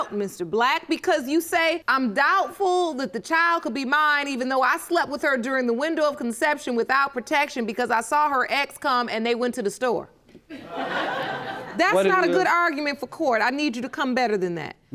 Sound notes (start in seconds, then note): 10.5 audience laughing